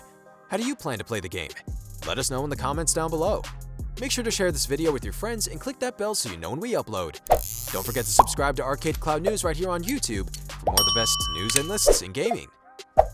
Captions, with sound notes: How do you plan to play the game? Let us know in the comments down below. Make sure to share this video with your friends and click that bell so you know when we upload. Don't forget to subscribe to ArcadeCloud News right here on YouTube for all the best news (bell dings) and lists in gaming.